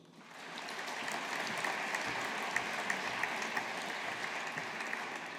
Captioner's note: audience applauding